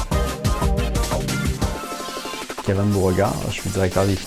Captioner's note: speaking french